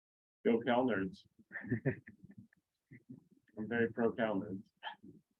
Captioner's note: chuckles